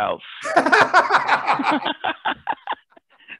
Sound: laughter

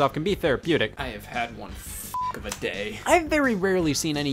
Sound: beep

